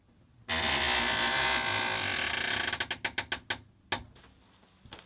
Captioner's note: door creaks, long and slow, as before